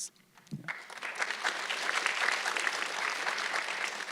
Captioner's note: audience clapping